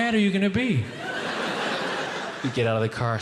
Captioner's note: audience laughing